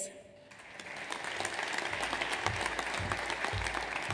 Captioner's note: audience applauds